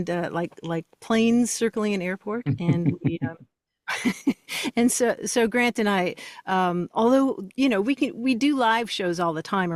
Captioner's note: laughs